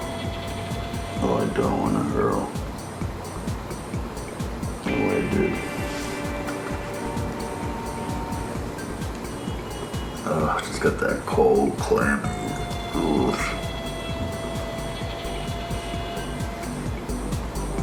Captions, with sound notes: Oh, I don't want to hurl. No, I do. Oh, I just got that cold, clammy (groans). (intense music)